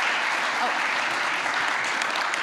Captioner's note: applause